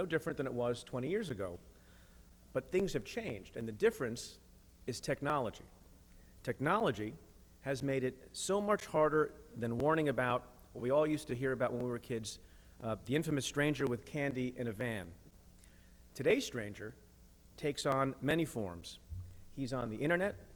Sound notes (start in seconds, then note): none